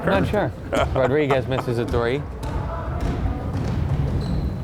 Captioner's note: laughing